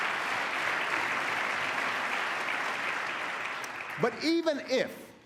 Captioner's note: applause